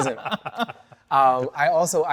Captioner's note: everyone laughing